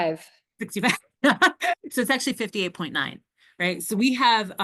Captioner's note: laughs